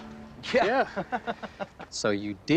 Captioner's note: laughter